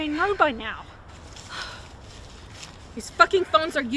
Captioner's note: Kody sighs